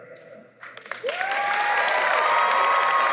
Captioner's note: cheering and applause